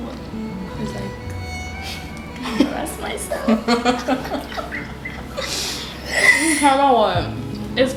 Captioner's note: both laugh